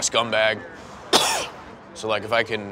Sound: cough

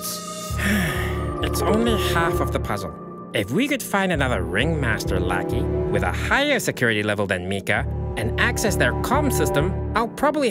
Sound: sigh

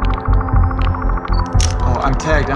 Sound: camera clicks

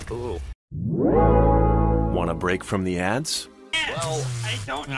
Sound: Spotify Ad Sound effect

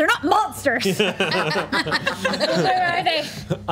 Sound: group laughs

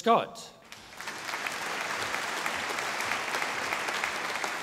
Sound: audience applauding

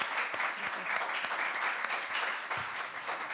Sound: audience applauding

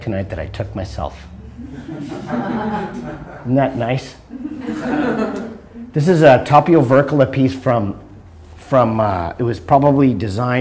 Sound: audience laughter

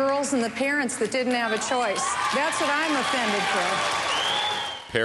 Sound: cheering and applause

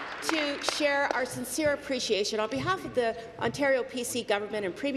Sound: applause

